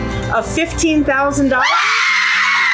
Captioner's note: screams in excitement